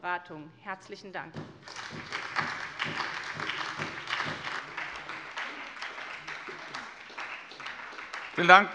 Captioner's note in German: Beifall von der SPD und Abgeordneten der LINKEN